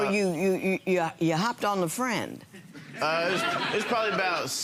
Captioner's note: audience laughing